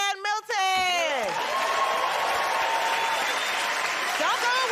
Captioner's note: cheers and applause